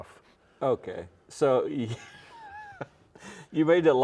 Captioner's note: laughs